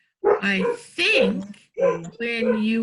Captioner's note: dog barks